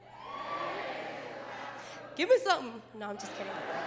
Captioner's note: crowd